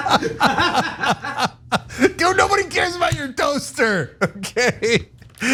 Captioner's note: laugh